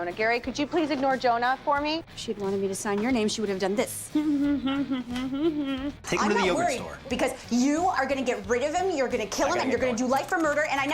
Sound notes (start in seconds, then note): 4.2 makes mocking guttural noises